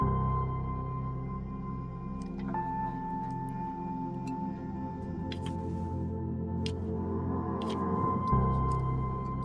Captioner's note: click